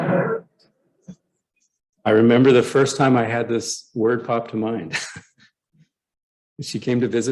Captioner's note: laughter